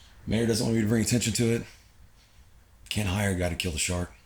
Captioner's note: none